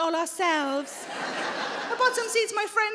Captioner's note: audience laughing